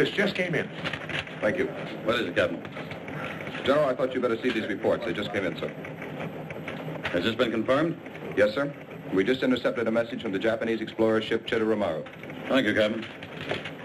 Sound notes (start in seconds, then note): none